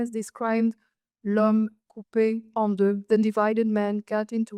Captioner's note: speaks French